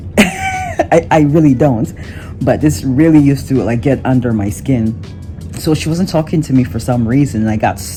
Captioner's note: chuckles